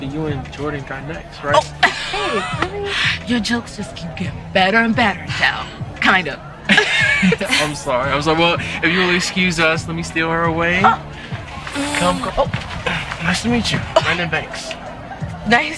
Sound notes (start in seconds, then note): 2.1 laughing; 7.4 Princess laughing